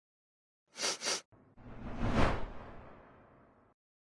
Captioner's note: sniffing